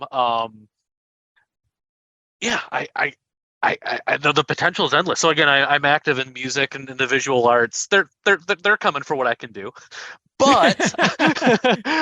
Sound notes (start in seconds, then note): 10.4 laughter